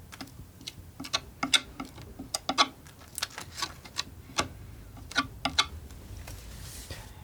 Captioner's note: tapping